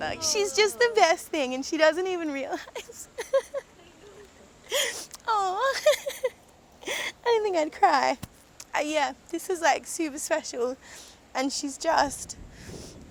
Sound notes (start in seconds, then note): 2.5 laughter; 3.1 tears